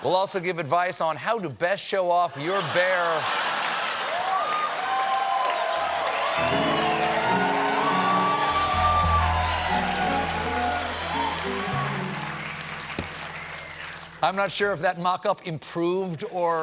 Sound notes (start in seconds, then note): 3.2 cheers and applause